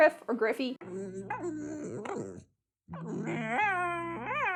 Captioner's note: dogs howling